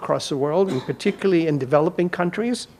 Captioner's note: audience member coughs